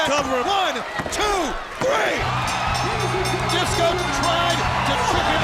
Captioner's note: bell ringing